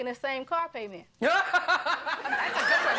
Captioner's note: laughing